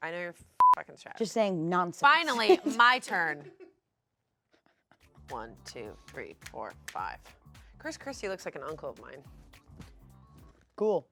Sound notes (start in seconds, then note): 0.6 beep; 3.4 chuckles